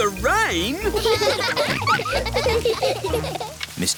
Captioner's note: all laughing